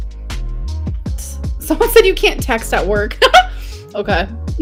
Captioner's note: laughs